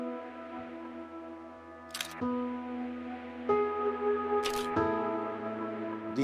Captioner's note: camera shutter clicking